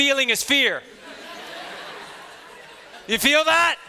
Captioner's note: students chattering